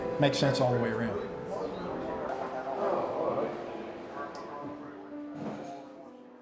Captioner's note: ambient chatter